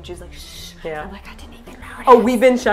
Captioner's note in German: flüstert